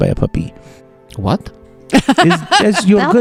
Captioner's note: laughs